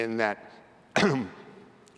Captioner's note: cough